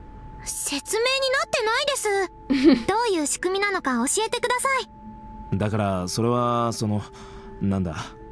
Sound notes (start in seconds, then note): 2.5 chuckles